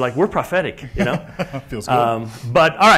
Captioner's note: laugh